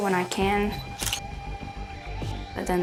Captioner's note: camera shutter sound